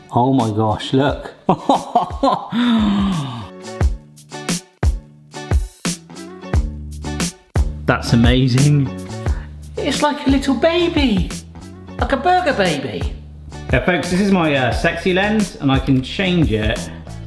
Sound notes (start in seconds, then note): 1.5 laughing; 2.4 gasping; 3.7 upbeat music; 17.0 upbeat music